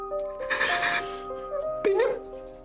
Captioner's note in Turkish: Ağlama sesi